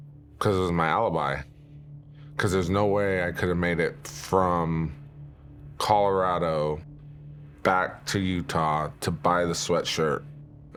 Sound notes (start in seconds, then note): none